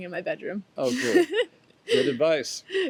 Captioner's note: laughs